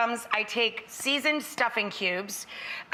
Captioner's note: none